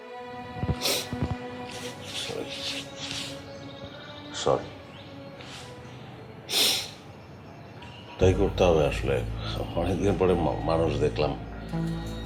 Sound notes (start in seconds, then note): 1.6 sniffs